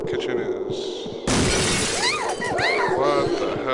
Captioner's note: CRASH, Woman screaming